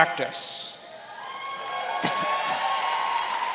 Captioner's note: applause